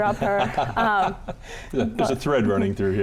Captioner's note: laughing